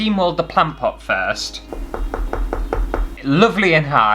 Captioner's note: knock, knock, knock, knock!